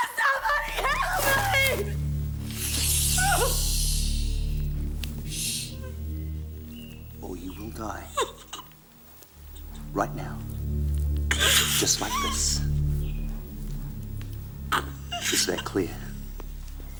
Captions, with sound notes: Somebody help me! (Jodie whimpering) (Graham shushing) - Or you will die. Right now, just like this, is that clear?